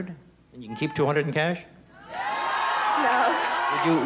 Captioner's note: crowd shouting